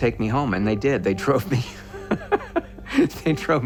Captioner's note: <i> laughs</i>